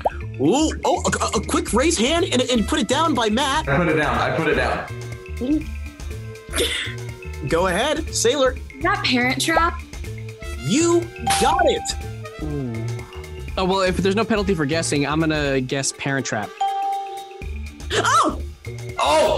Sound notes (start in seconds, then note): 6.4 laughs; 11.2 bell rings; 16.6 bell rings